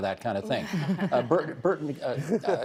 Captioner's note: guests laughing